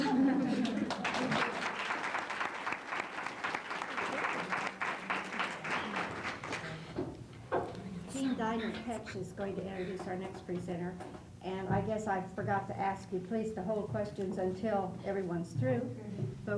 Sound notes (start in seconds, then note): 0.0 laughter; 0.4 applause